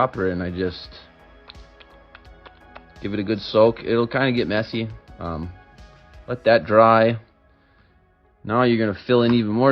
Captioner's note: dropper noises